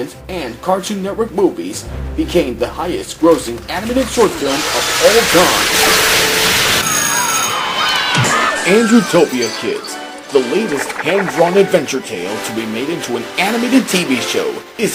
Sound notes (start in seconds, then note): 6.5 school bell rang; 6.8 cheering